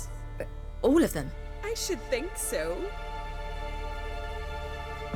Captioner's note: none